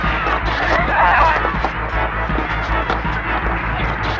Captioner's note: screaming and grunting